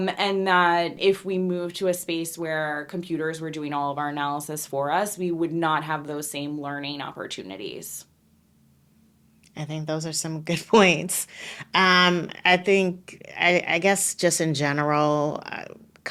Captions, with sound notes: and that if we moved to a space where computers were doing all of our analysis for us, we would not have those same learning opportunities. - I think those are some (laughing) good points. I guess, just in general,